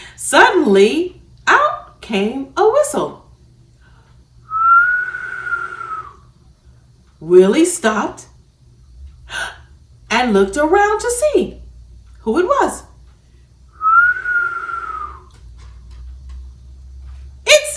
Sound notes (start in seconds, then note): 4.4 whistles; 13.7 whistles